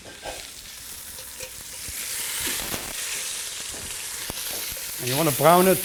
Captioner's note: sizzling